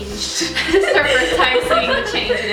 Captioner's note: laughter